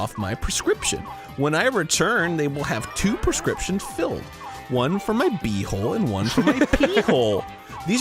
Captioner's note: giggles